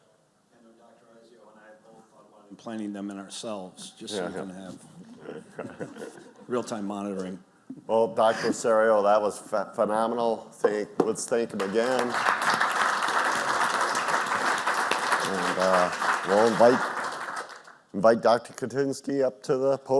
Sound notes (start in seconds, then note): 14.5 clapping